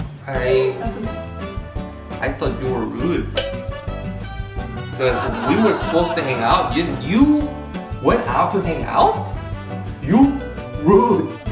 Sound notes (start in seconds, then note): 4.7 laugh